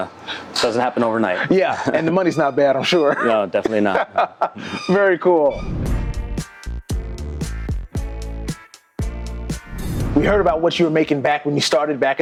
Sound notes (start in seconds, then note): 4.6 laughs; 5.4 upbeat music